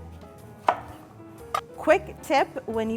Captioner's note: knife slamming